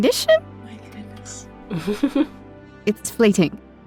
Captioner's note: whispers